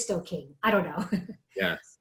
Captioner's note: laughs